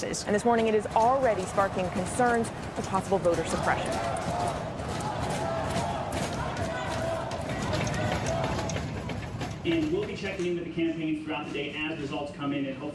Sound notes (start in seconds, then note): 4.2 crowd stuttering